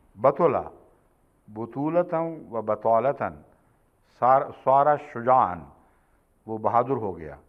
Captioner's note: Arabic